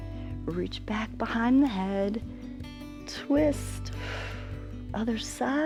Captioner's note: exhales; inhales